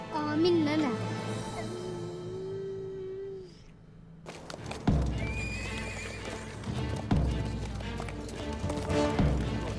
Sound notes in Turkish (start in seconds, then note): 5.5 At kişneme sesi; 6.6 Kös sesleri; 8.8 Kalabalık gürültüsü; 8.8 Müzik - Gerilim